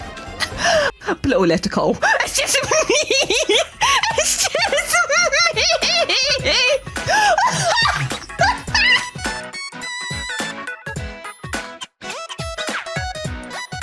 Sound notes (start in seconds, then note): 3.2 giggling; 5.0 laughter delving into sobbing